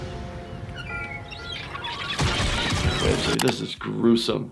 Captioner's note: seagulls chirping